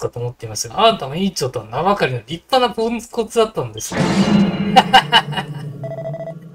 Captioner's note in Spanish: Risas